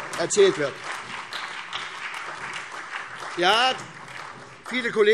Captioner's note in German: Beifall SPD, CDU, BÜNDNIS 90/DIE GRÜNEN und Freie Demokraten